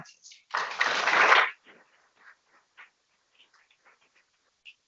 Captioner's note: people clapping